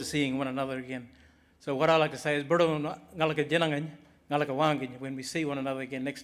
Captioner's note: speaks in Aboriginal language